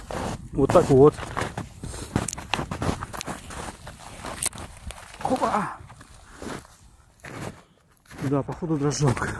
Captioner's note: snow crunch